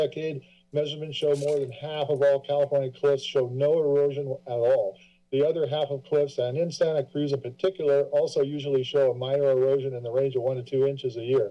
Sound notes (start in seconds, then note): none